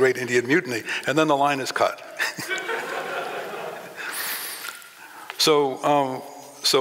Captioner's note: laughing